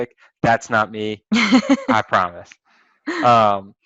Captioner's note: laugh